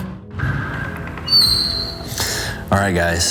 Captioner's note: door squeaking